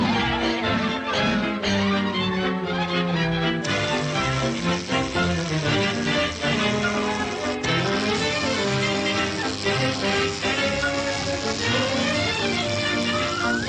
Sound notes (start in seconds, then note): 1.4 bright music continues; 7.0 fridge buzzing; 13.4 bright music continues